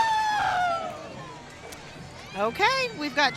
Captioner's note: crowd cheering